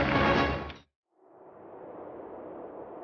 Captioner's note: wind howling